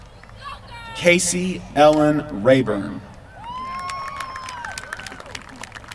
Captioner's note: applause